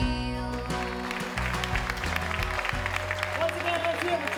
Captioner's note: audience applauding